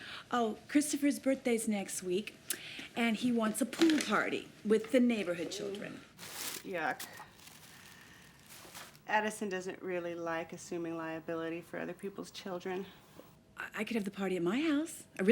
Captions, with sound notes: Oh, Christopher's birthday's next week, and he wants a pool party with the neighborhood children. (Becky groans) - Yuck. (paper crinkling) Addison doesn't really like assuming liability for other people's children. - Well, I could have the party at my house?